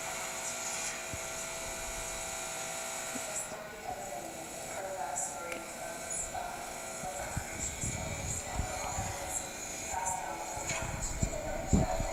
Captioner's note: faint voices on recording, first a female voice then a male voice